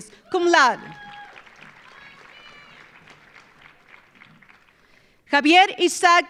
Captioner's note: audience cheering; audience applauding